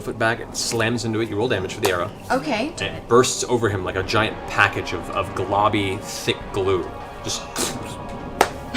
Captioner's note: pfft